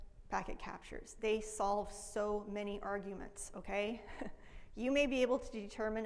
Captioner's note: laughs